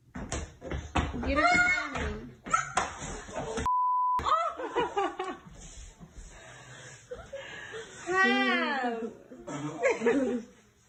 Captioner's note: laughter